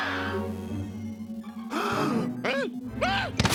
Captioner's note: gasps